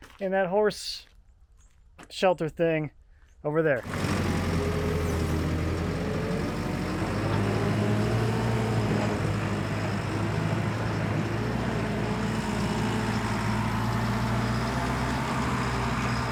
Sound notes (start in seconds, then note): 4.1 engine rumbling